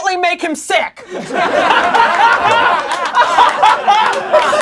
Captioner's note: laughing